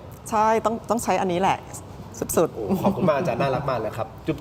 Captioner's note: laughter